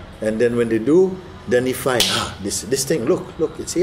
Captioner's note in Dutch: knalt met vuist